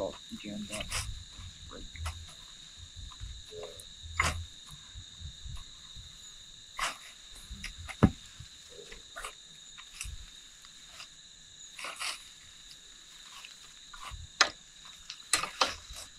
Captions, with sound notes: - It's all jammed up right there. [tools scraping] [insects chirping]